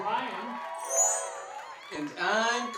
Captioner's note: chime Sound